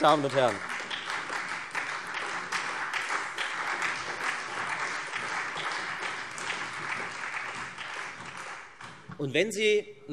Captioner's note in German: Beifall Freie Demokraten und SPD